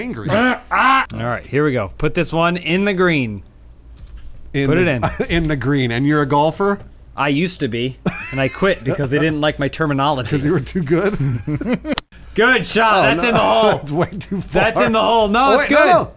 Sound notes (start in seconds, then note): 10.3 laughing; 10.3 chuckling